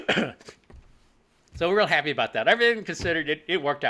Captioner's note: coughs